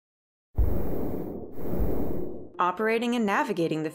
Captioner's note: whoosh